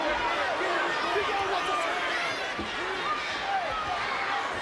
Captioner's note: overlapping chatter